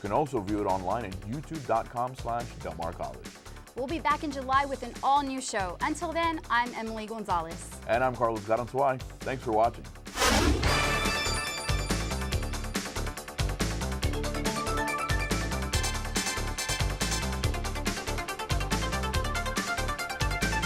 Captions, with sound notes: You can also view it online at youtube.com/delmarcollege. - We'll be back in July with an all new show until then, I'm Emily Gonzalez. - And I'm Carlos Garanzuay. Thanks for watching. (deep swooshing) (upbeat electronic music)